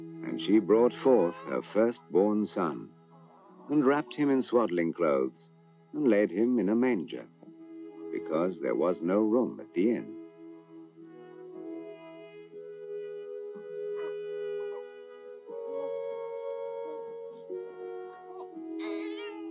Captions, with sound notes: And she brought forth her firstborn Son, and wrapped Him in swaddling clothes, and laid Him in a manger, because there was no room at the inn. (tender music) (Jesus cooing)